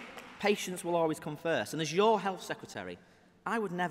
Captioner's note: applause